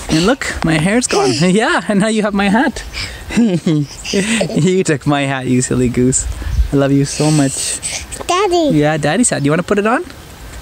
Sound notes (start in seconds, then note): 2.7 laughs